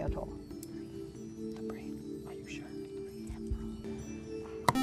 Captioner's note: whispering; buzzer